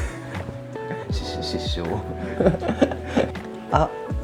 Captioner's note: awkward chuckle